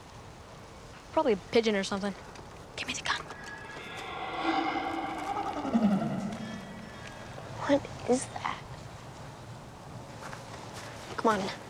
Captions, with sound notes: Probably a pigeon or something. Give me the gun. [ghostly warbling] What is that? Come on.